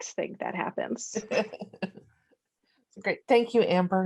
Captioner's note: laughing